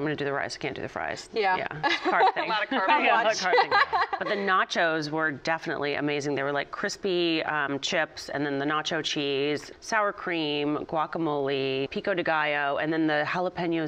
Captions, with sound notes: "IF I'M GONNA DO THE RICE, CAN'T DO THE FRIES." CARB THING. [ LAUGHTER ] BUT THE NACHOS WERE DEFINITELY AMAZING. THEY WERE LIKE CRISPY CHIPS AND THEN THE NACHO CHEESE, SOUR CREAM, GUACAMOLE, PICO DE GALLO, AND THEN THE JALAPEÑOS.